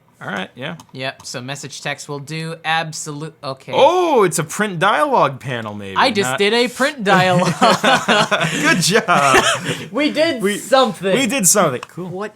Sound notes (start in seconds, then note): 7.0 laughs